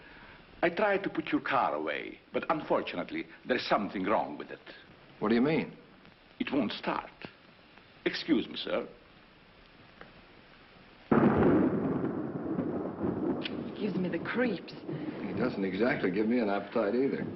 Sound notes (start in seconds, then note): 11.1 thunder